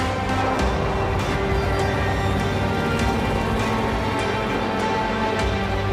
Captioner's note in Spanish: Sonido de motores acelerando